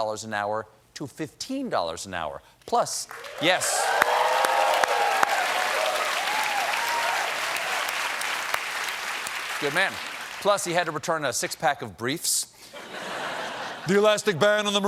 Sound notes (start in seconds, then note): 6.2 applause